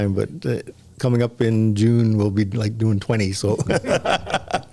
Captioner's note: laughter